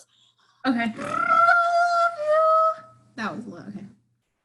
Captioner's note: raspberries; raspberries